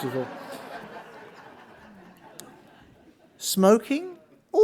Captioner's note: audience laughing